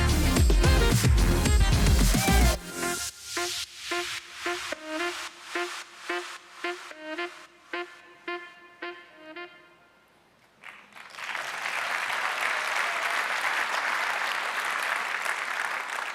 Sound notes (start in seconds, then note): 10.5 audience applauding